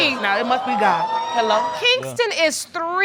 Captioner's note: audience laughing